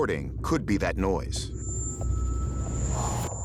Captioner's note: high-pitched noise